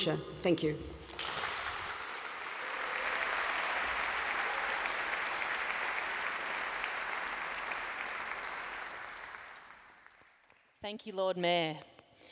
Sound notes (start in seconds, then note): 2.3 audience applauds